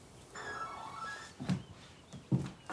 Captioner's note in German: Klingel-Ton